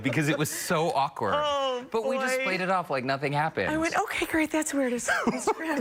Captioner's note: laughter